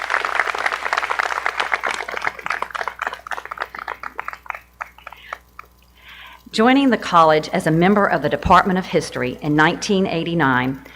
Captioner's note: appaluse